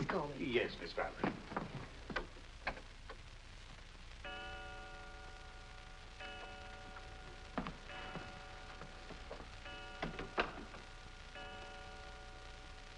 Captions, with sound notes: - please call me. - Yes, Miss Barbara. (clock chimes)